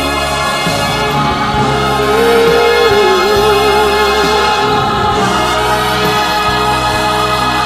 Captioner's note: ooooo Ooooo